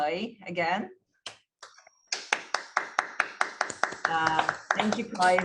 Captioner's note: applause